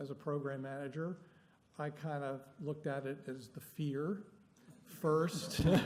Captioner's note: laughter